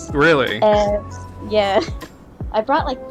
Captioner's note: laughs